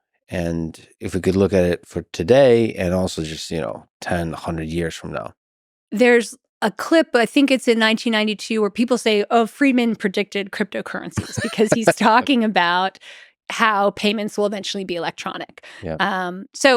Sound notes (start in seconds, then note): 11.2 Lex chuckles